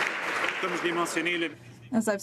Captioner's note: some Applause